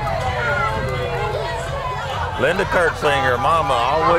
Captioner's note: people chatter